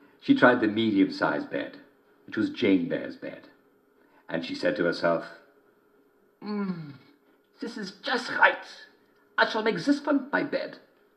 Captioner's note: German